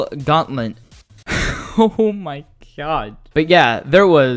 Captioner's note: laughs